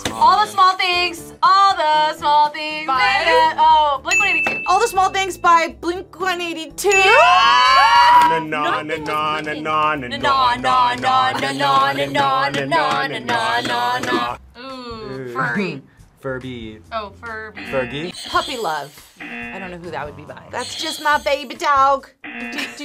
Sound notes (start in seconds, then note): 15.6 laughs; 17.5 buzzer rings; 17.6 buzzer; 19.1 buzzer rings; 22.2 buzzer